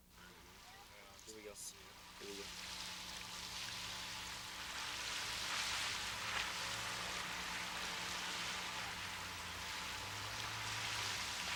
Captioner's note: water sounds